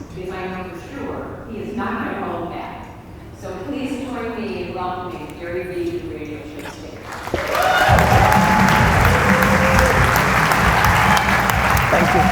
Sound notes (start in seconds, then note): 7.0 audience applause